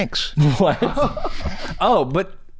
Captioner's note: chuckles